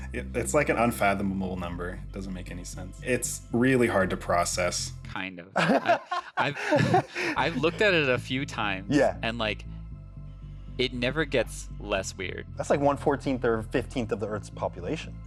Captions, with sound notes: It's an unfathomable number, it doesn't make any sense. It's really hard to process. -Kind of. [laughter] I've looked at it a few times and It never gets less weird. -That's one-14th or 15th of the earth's population.